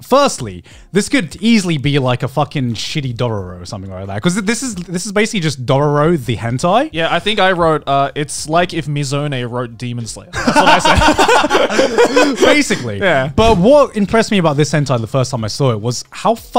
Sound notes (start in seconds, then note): 10.3 both laugh